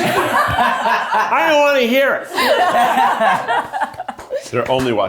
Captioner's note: everyone laughs